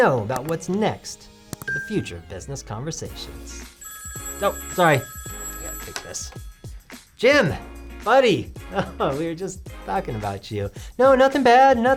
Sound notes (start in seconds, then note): 3.8 phone rings